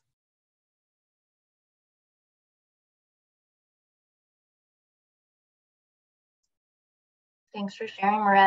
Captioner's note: silence